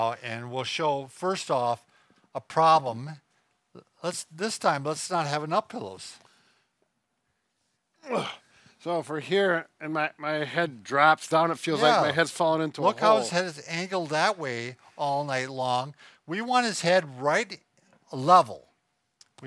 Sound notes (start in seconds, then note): 8.0 grunts